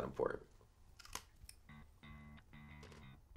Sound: crunching on food

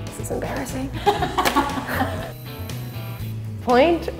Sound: laughs

